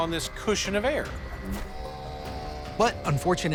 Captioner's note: engine buzzing